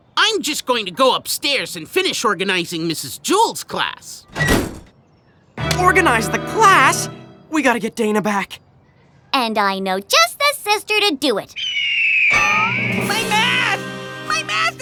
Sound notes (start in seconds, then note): 11.5 vulture cries